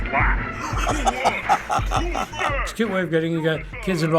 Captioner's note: laughs